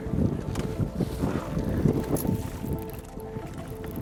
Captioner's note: wind blowing